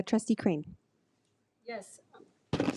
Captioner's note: none